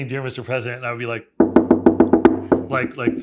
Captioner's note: knuckles rapping